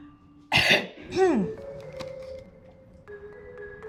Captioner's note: coughing